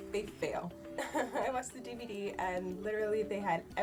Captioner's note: laughs